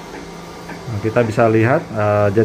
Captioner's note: printer machine noise